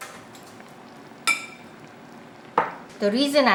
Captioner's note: sauce bubbling